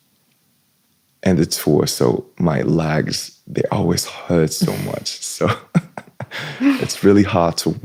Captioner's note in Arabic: ضحك